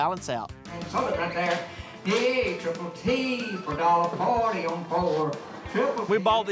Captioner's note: auctioneer speaking